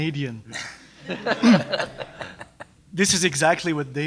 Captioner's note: laughter